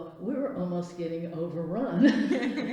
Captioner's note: laughs